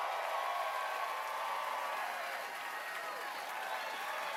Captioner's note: cheers and applause